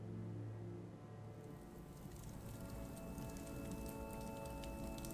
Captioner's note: fire Crackling